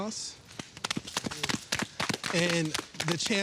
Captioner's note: all applauding